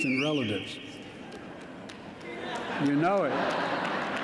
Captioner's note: audience member whistles; laughter